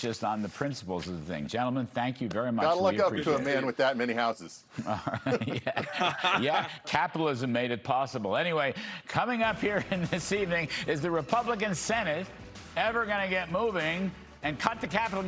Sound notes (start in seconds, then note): 9.6 laughter